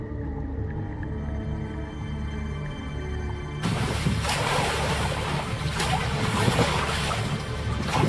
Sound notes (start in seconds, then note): 0.9 tense music; 0.9 water splashing